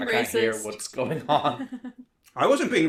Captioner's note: laughs